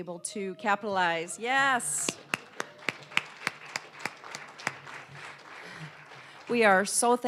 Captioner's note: applause